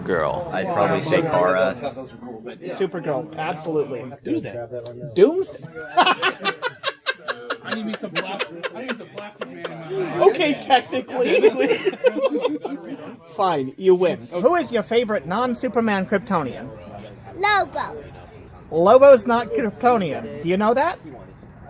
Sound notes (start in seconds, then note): 5.9 laughing; 11.4 more laughing